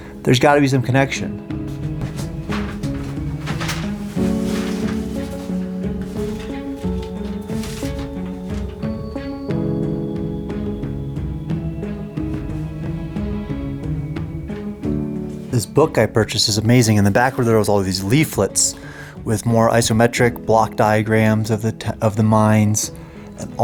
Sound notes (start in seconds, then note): 0.0 somber piano music continues; 1.3 pages rustle; 1.6 clattering; 9.5 somber piano music continues